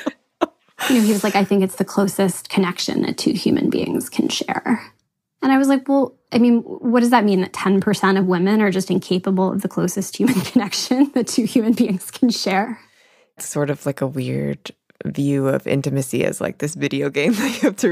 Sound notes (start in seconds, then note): 0.0 both laugh; 10.7 laughs